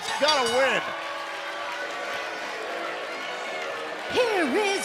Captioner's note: bell ringing